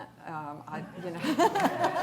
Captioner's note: laughter